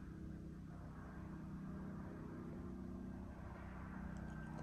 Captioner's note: machine rumbling